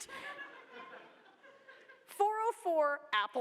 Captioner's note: laughter